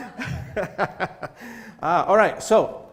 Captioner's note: laughter